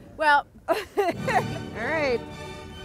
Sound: laughing

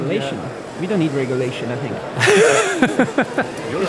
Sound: laughing

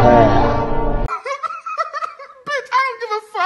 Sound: callous laughing

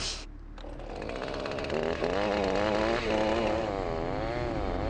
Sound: chainsaw buzzes

